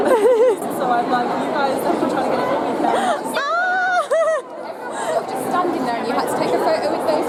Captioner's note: general chatter; exciting screaming